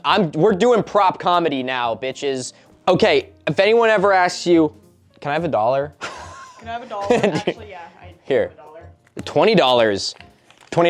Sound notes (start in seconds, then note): 6.0 laughs; 6.6 mocking